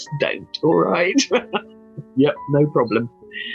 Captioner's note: laughs